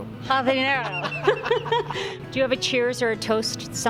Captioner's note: both laugh